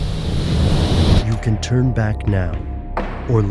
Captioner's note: ominous music; voiceover